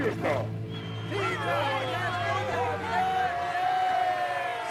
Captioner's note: crowd cheering